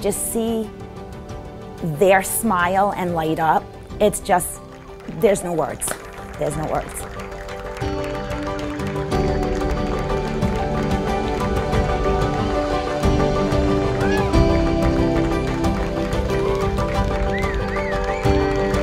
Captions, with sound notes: their smile and light up. It's just, there's no words. There's no words. (light music) (audience clapping) (light music continues)